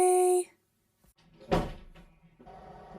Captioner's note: door closes